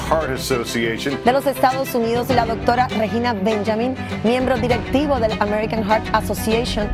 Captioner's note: new anchor reporting in foreign language